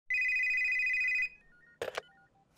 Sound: phone ringing

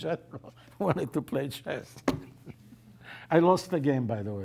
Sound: laughs

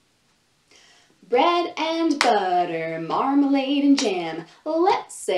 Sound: chanting

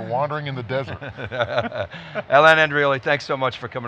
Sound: laughing

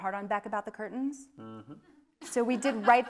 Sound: audience laughing

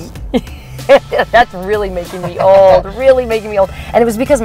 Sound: laughs

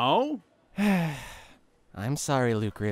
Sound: sigh

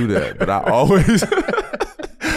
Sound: laughing

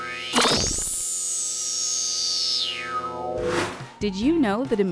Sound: sound Effects

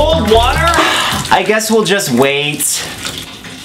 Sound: Onision sighs

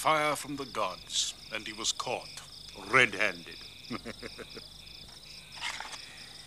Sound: laughs

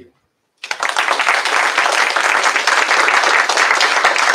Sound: applause

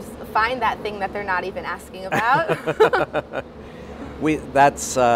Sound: laughs

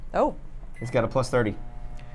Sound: microwave beeps

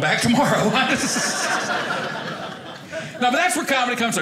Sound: audience laughing

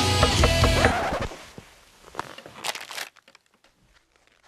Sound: door knocking

